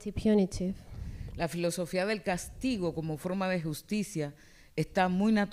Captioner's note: speaking spanish